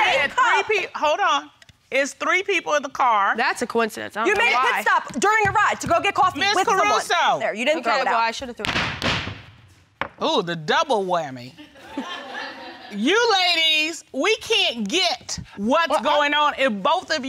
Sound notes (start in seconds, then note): 8.5 thudding; 11.7 audience laughing